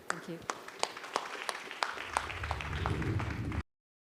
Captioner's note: audience clapping